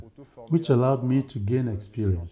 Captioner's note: non-english speech